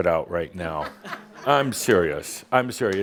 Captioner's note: laughter